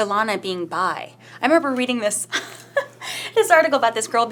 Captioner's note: laughs